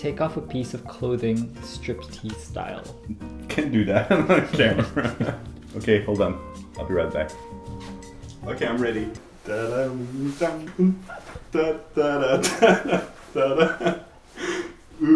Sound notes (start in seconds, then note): 9.8 vocalizes